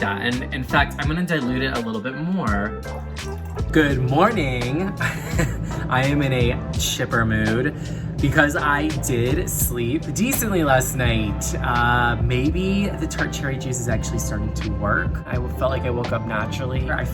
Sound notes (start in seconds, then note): 2.8 laughs